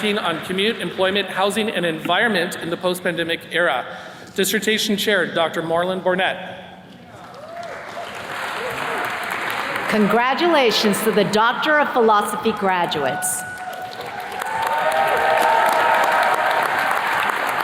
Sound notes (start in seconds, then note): 7.1 attendees clapping; 12.8 attendees cheers and claps